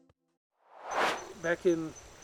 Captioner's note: air swooshes